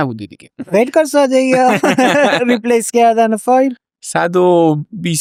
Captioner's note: laughs